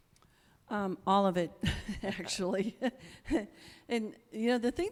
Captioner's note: laughs